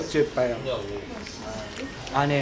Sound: nom nom nom

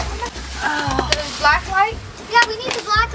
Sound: mom grunts

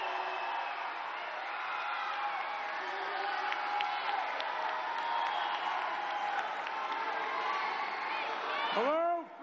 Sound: cheers and applause

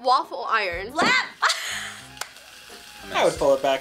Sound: laughs

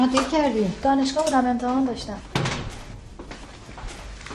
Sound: door closing

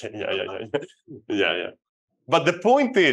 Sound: chuckles

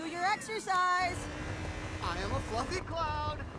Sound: engine humming

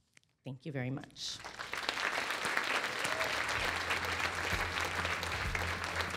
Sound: applause

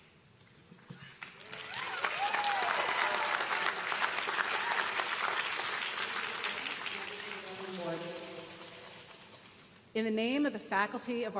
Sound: applause

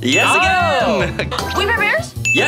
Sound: bell dings

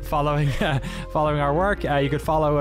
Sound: laughter

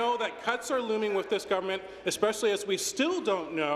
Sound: some Applause

